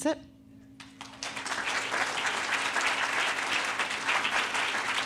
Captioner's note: audience applauding